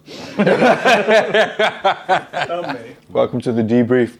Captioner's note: all laughing